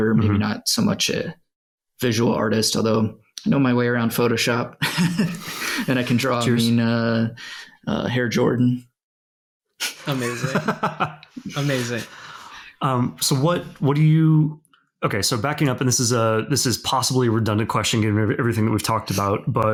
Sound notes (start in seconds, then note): 4.8 laughs; 9.9 laughs